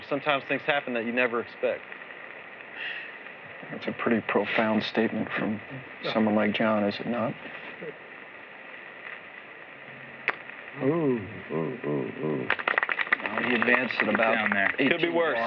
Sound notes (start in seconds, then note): 12.4 applause